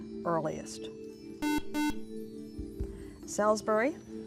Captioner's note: buzzer